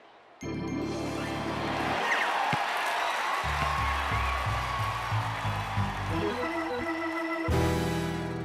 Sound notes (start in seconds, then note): 2.0 cheers and applause